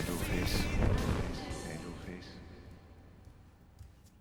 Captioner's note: echo